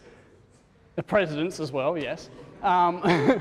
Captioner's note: laughter